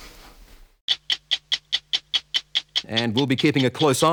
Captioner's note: clock ticking